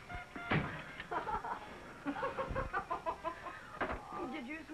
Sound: laughs

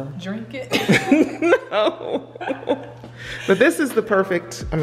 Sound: laughing

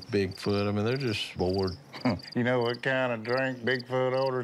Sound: chuckles

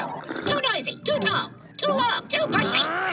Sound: slurping

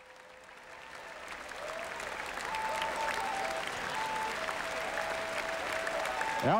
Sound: cheers, whistles, & applause

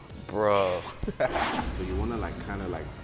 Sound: screen whooshes

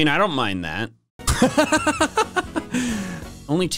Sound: laugh

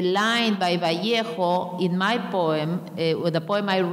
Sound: speaking in a foreign language

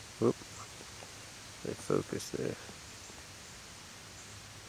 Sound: mumbles

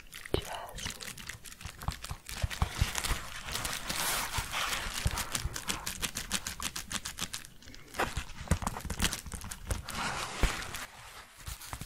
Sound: shuffling and crinkling

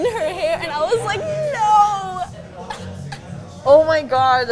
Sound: laughs

